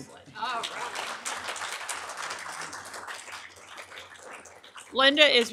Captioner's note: audience applauding